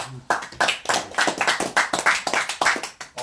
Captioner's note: applause